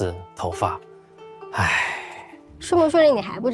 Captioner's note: sigh